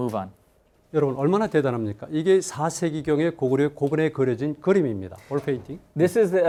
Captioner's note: speaking in Korean